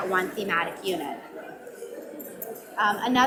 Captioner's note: audience mumbling